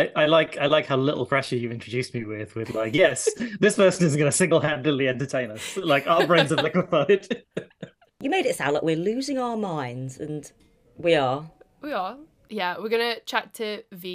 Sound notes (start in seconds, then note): 5.6 laughs